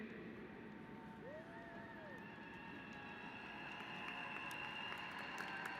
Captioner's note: applause